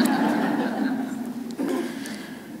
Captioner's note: laughter